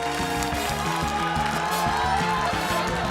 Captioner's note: audience exclaims